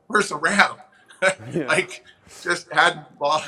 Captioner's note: chuckles